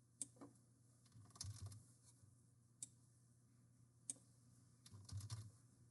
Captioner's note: mouse clicking